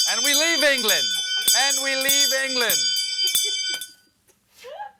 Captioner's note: bell ringing